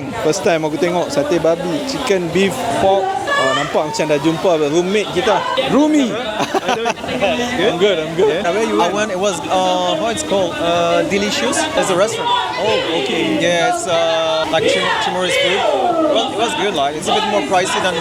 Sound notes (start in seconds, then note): 6.2 laugh